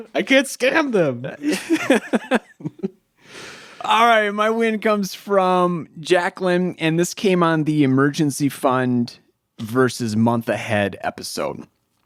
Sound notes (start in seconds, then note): 1.4 chuckles